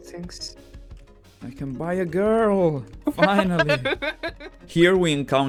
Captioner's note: laughs